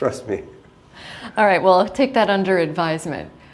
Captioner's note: chuckle